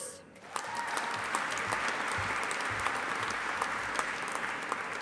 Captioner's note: audience applauding